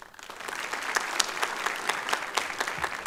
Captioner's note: applause